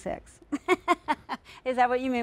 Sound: laughs

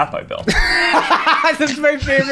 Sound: laughter

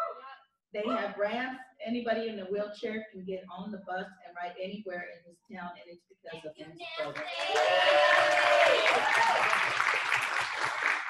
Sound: applause

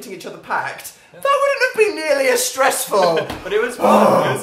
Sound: laughs

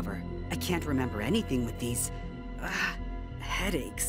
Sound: none

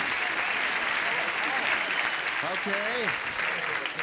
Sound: cheers and applause

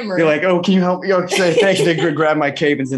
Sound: laughing

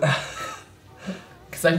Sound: laughs

